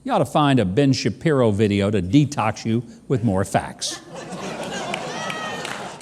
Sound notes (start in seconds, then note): 3.9 audience laughing